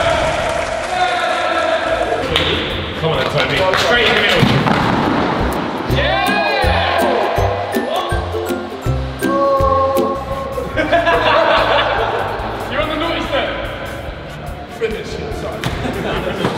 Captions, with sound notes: - Come on, Tobin. Go straight! - Yeah! (upbeat music) (laughter)